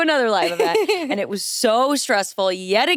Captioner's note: chuckles